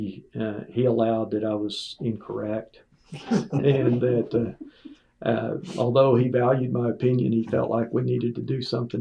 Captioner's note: laughter